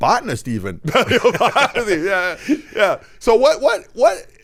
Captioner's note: laughing